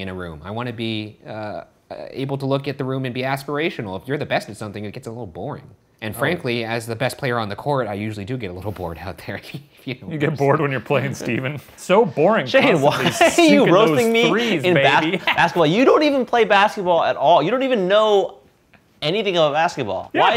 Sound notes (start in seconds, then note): 10.3 chuckles